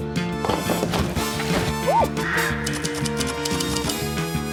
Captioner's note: bird squawks; typewriter keys clicking; ducks squawking